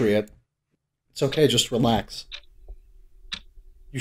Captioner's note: clock ticking